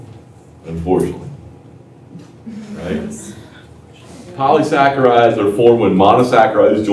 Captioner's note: laughter